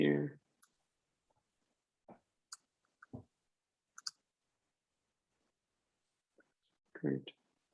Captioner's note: typing